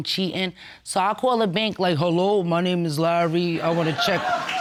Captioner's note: in hoarse voice